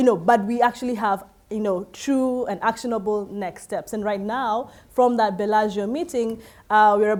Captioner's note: none